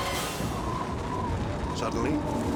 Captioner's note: wind rustling